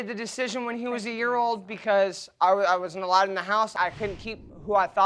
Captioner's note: stammering